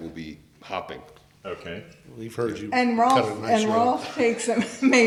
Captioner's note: various people talking and laughing